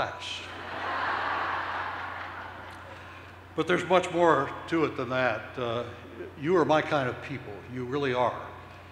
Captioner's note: laughter